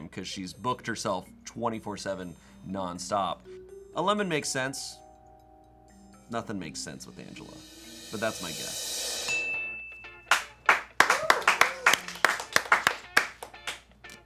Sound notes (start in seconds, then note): 9.2 bell dings; 9.2 upbeat music; 10.6 crew cheering and clapping